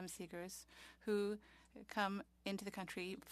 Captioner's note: speaking French